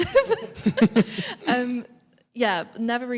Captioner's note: laughs